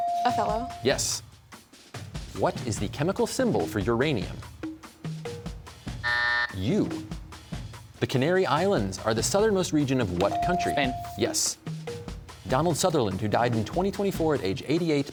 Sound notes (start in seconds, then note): 6.0 buzzer sounds